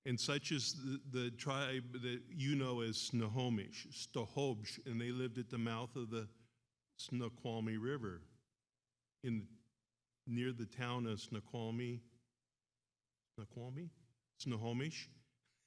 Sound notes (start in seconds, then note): 4.0 speaks in foreign language